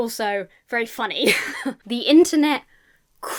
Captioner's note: laughs